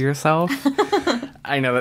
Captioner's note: laughs